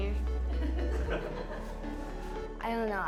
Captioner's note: laughing